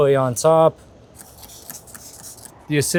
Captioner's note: spray spritzing